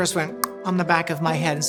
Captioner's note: mouth clicking